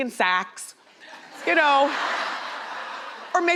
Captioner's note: crowd laughs